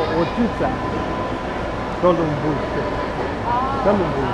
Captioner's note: mandarin